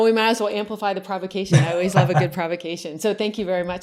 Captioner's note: laughs